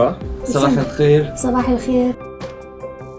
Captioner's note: Bahasa Melayu; Arabic